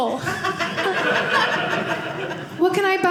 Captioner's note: audience laughing